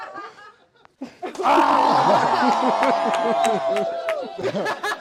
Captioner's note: cheers